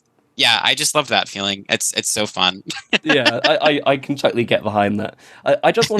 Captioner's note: laughs